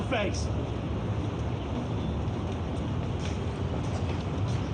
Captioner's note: birds chirp